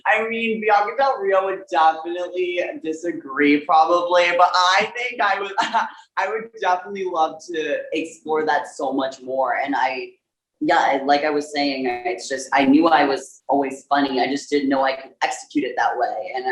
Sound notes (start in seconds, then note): 5.6 scoffs